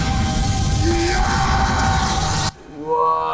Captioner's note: heavy yelling